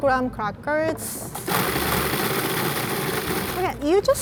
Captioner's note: whirring sounds